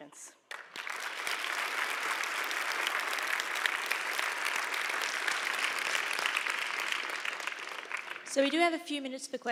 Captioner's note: applause